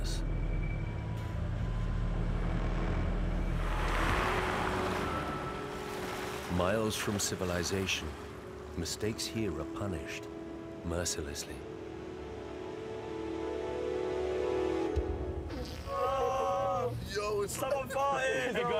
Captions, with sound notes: miles from civilization. Mistakes here are punished mercilessly. - [Fart] - [Groaning] - Yo! Has someone farted? - Hey, guys!